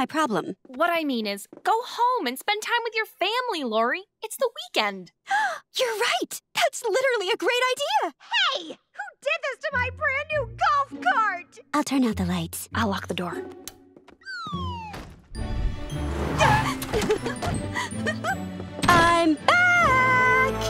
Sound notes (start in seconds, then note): 16.4 giggling